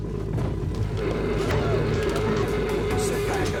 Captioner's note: tapecorder whirring